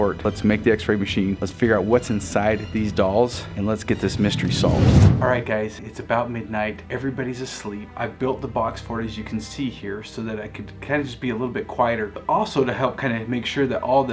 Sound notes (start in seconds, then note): 3.9 air whooshes